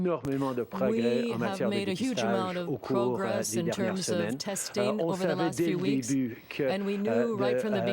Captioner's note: speaking french